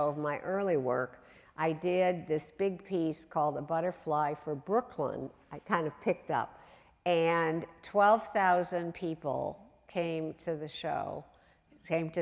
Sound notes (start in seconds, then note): none